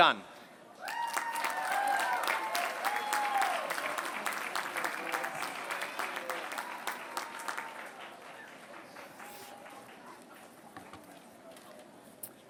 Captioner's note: applause